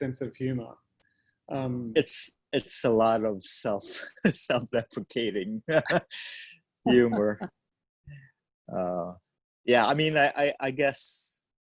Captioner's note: laughs